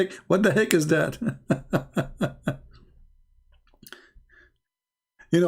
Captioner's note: Ketawa